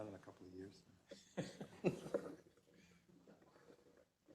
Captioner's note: laugh